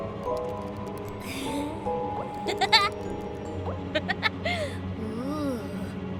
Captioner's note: sinister giggles